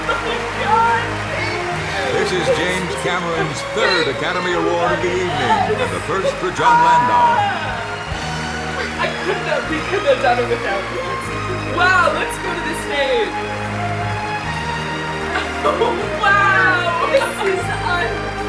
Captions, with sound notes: Oh my God, thank you. - This is James Cameron's third academy award of the evening, the first for Jon Landau. - We couldn't have done it without you. Wow, let's go to the stage. (orchestral music) (audience applauding) - Wow, this is unreal.